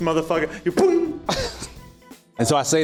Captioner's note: disarming sound